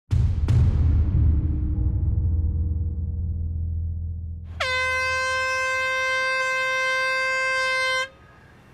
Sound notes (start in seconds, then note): 0.1 dramatic music; 4.5 air horn blows